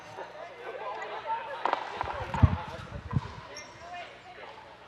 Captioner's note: players chattering